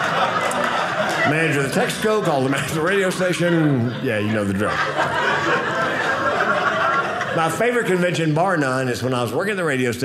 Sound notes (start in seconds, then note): 5.3 audience laughing